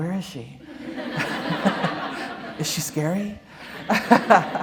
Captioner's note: laughter